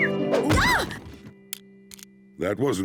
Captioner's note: mummy pig screams